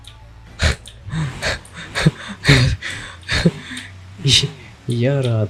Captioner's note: nervous laugh with hints of relief